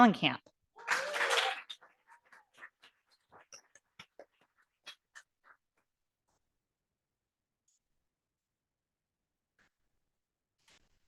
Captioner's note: audience applauding